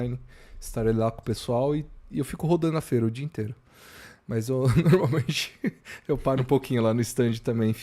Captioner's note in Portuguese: risadas